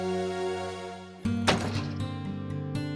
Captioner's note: door closing